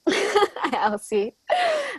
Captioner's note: laughs